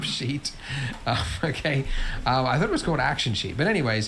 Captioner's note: laughs